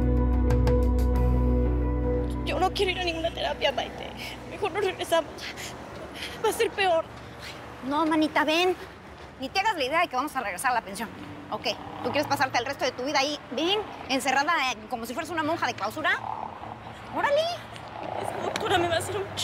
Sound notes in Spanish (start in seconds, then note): 8.9 sollozos